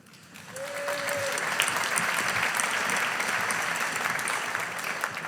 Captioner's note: audience applauding